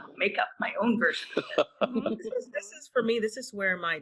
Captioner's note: laughing